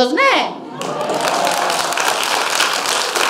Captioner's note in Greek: χειροκροτηματα